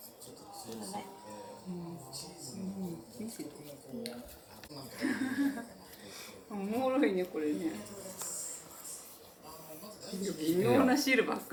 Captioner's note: laughs